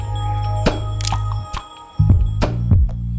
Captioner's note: camera click